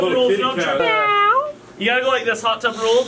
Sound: imitates meowing

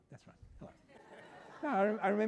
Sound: laughter

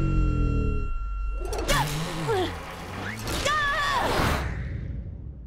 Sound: grunting

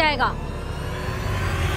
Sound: sound effect playing

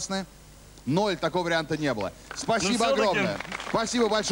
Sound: applause

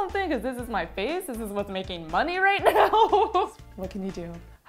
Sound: laughs

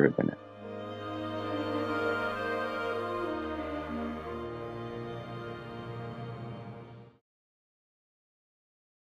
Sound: recording playing

